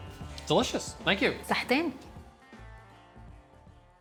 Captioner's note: speaks local language